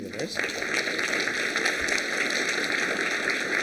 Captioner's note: applause